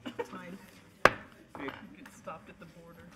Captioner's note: banging